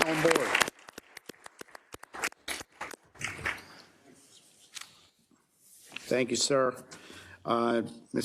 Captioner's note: applause